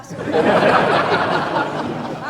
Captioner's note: choir laughing